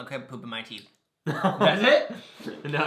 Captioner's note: laughs